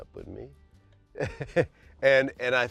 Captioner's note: laughs